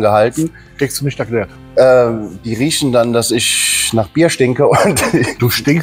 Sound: laughing

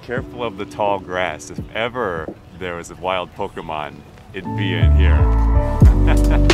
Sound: laughter

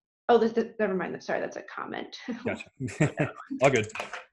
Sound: laughs

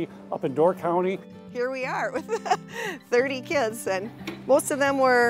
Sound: laughs

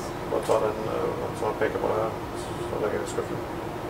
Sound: In Norwegian

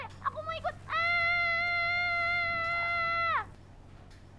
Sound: screaming

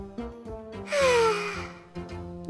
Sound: sigh

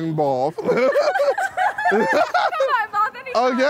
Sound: laughing

